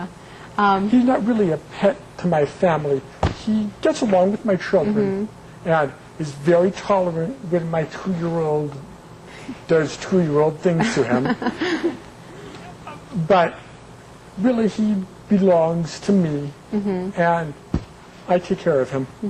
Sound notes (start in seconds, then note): 10.8 laughs